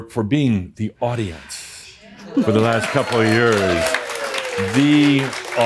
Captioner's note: more cheers and applause